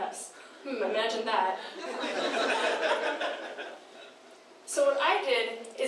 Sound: laughing

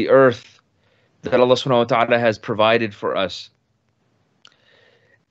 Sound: speaks in foreign language

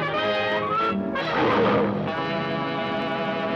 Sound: ape roaring

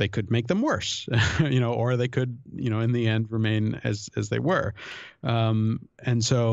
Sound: chuckle

